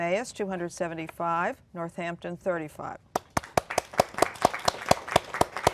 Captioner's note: applause